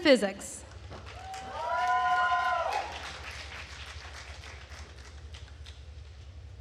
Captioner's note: attendees cheering and applauding